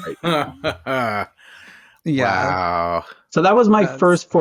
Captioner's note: laughs